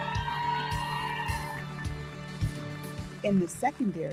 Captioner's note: audience cheering; audience applauding